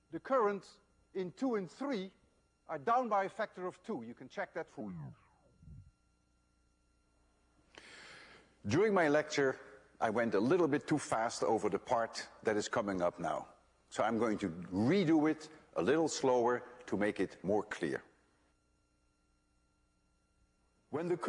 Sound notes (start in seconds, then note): 4.8 tape slows down